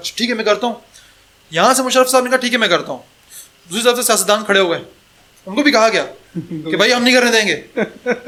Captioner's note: laughter